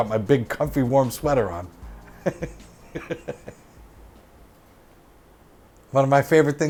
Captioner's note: laughs; music fades out